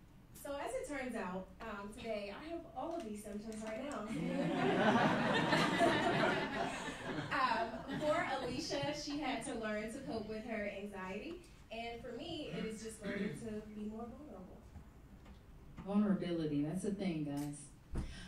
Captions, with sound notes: - So as it turns out today, I have all of these symptoms right now. (laughing) For Alicia, she had to learn to cope with her anxiety, and for me it is just learning to be more vulnerable. - Vulnerability, that's the thing, guys.